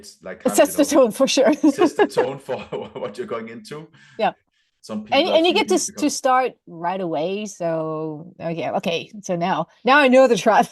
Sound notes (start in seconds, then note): 1.4 laughter; 1.4 laughs